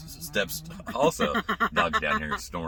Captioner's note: laughing